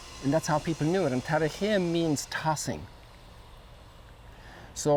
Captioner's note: foreign language